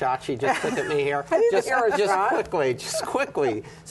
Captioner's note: laughter